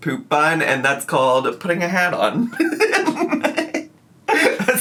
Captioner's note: laughs